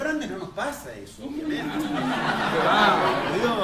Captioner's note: laughter